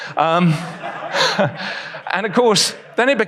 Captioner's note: audience laughs